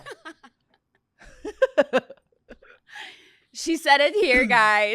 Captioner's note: laughs